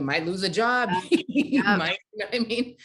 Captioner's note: chuckling